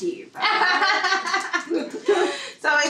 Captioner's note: laughing